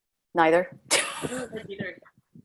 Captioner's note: laughs